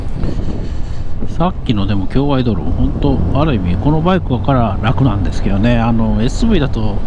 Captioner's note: Swish